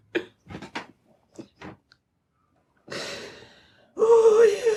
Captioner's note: Amy's mother cries